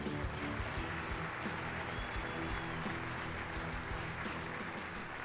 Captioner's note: audience applauds